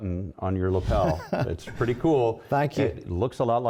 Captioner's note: laughter